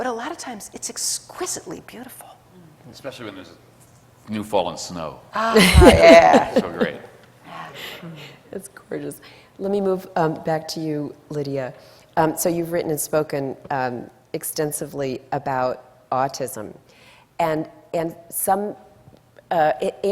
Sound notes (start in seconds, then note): 5.5 laughs